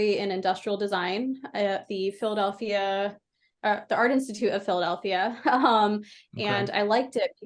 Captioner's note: laughs